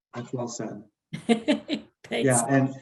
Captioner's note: laughs